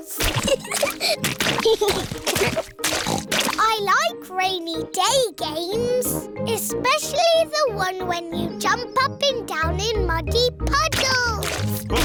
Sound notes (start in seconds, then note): 0.3 both giggling; 1.3 oinks